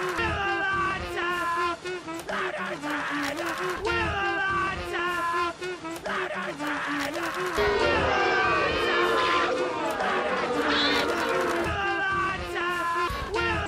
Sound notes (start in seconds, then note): 7.7 yelling